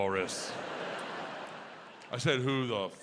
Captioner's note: audience laughs